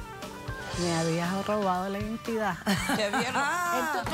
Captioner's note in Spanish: Risas